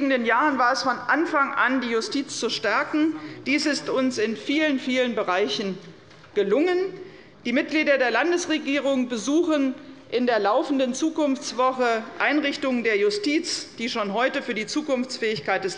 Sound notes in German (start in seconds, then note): none